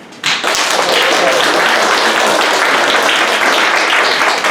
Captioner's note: audience applauds